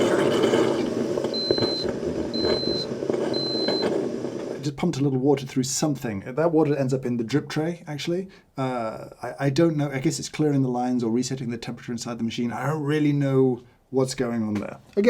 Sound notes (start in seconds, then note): 0.0 machine beeps